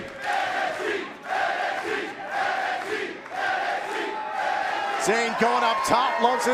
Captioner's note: fans chanting